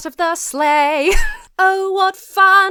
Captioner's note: wheezes